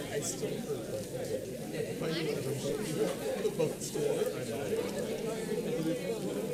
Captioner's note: paper crinkling and audience chattering